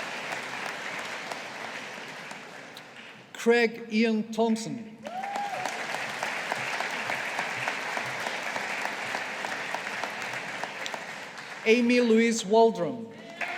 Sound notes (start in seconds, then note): 5.0 audience applauding